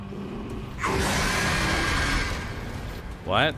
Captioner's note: catnap screeches